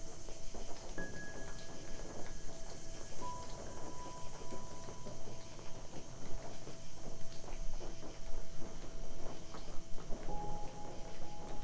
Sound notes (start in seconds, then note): 0.2 eerie piano instrumental; 4.5 night din